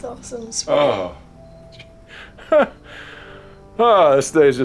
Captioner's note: laughs